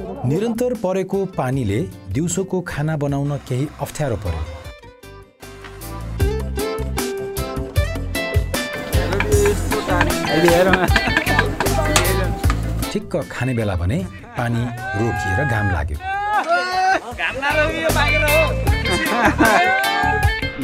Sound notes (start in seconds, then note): 16.0 cheering and hooting; 18.8 laughter